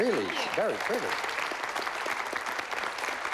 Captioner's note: applause